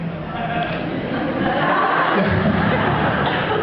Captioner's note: laughs